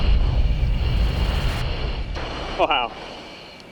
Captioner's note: inside jet ambience